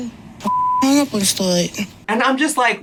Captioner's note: beep